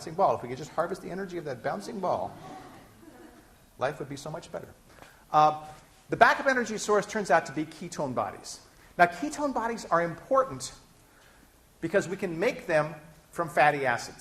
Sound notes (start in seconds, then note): 2.3 laughter